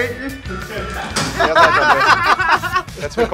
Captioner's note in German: Lachen